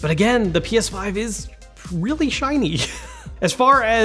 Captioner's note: laughs